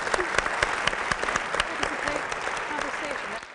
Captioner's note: applause